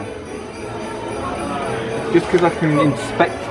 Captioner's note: bell chiming